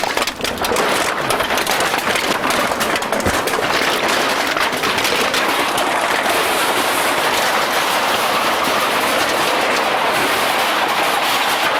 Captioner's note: the sound of cans being loaded into the machine